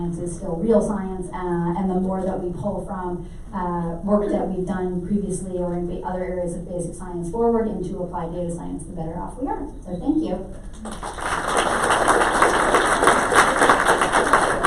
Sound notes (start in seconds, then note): 10.7 clapping